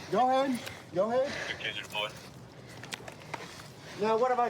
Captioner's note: radio cahtter